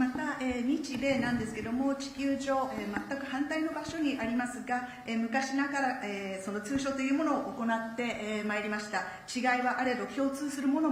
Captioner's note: speaking Japanese